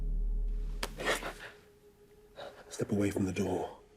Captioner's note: George gasps